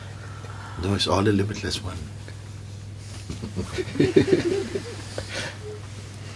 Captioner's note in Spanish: risas